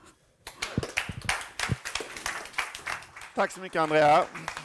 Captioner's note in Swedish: Applåder